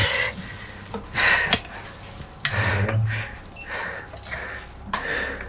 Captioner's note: heavy breathing